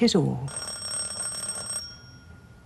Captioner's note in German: ringing